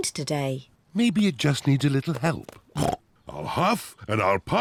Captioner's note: snorts